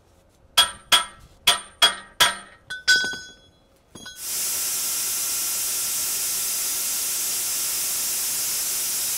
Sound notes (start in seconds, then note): 0.6 metal clanging; 4.3 machine sawing